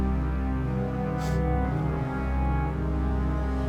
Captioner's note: dramatic music; Mia crying